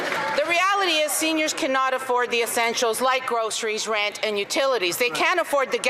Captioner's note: some Applause